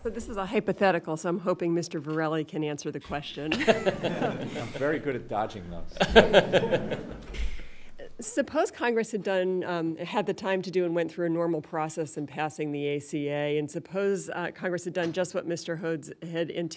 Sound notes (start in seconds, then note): 3.4 background laughter